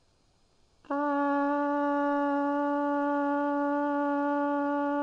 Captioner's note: horn blowing